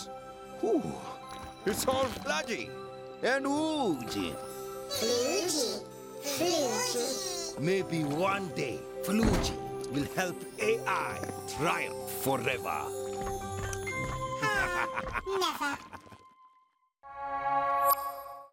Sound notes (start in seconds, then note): 14.3 laughing